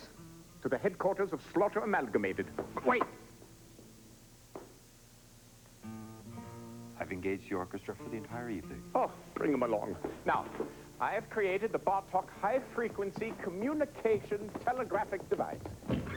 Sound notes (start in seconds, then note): none